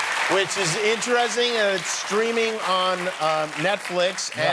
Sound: cheers and applause

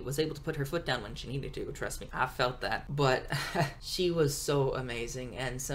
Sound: laughs

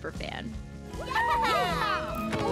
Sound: cheering

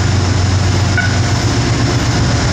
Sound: beep

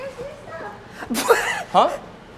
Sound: snorts

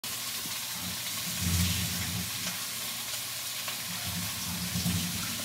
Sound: today's BGM: Meat grilling noise

